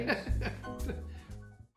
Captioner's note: laughing